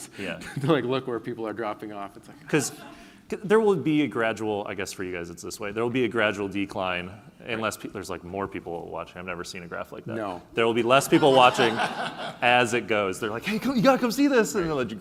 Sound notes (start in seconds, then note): 2.9 laughing